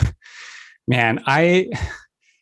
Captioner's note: chuckles